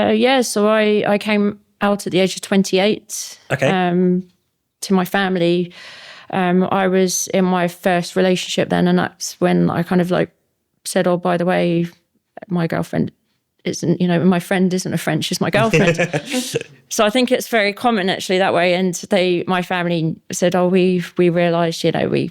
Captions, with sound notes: Yeah, so I came out at the age of 28. Okay. To my family. I was in my first relationship then and that's when I kind of like said, oh, by the way, my girlfriend isn't, you know, my friend isn't a friend, she's my girlfriend. (laughing) So I think it's very common actually that way. And they, my family said, oh, we realised, you know,